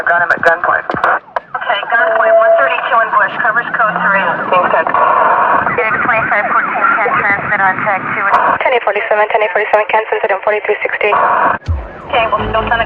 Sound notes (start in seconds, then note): 6.5 radio